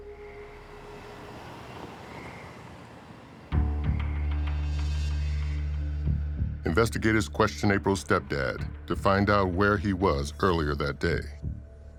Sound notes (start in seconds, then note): 0.1 car whooshing; 3.6 suspenseful music